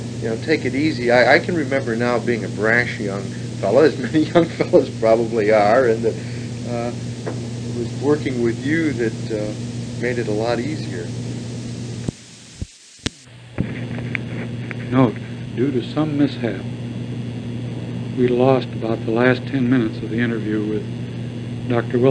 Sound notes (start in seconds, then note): 14.9 tape cuts